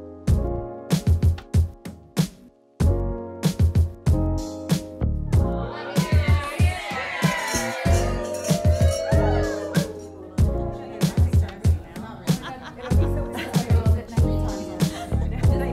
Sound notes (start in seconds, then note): 11.5 crowd chatting